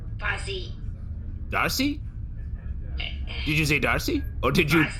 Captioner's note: Bargie makes a small frustrated sound